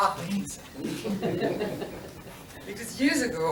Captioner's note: laughter